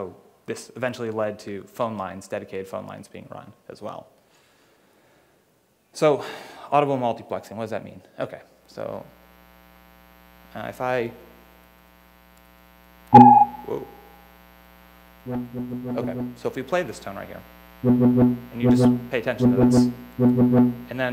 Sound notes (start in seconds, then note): 15.5 low tone